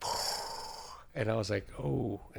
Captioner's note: inhaling